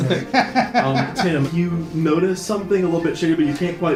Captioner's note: laughs